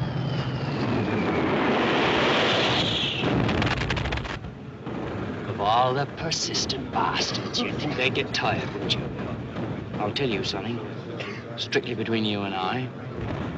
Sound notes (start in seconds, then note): 0.0 bomb whistles; 3.2 explosion